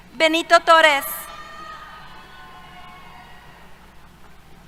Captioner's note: cheers